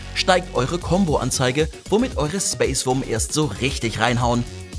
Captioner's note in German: none